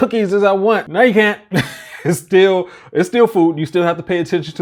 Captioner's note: laughs